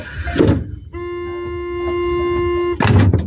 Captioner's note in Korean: 출입문 열림; 출입문 열림